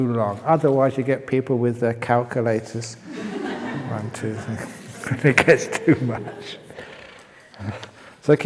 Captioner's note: laughter